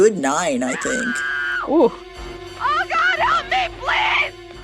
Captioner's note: soundbite of film, "halloween"